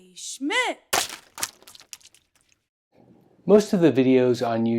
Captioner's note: paint splashes